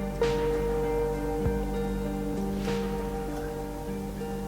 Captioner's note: downpour trickling